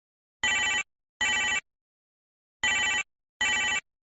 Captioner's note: ring, ring, ring